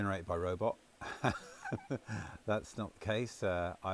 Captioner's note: laughs